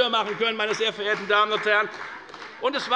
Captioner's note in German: Beifall bei der FDP